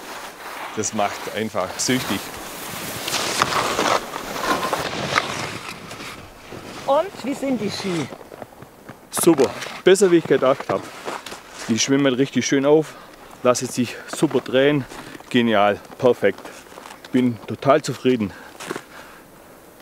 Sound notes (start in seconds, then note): 3.1 snow crunch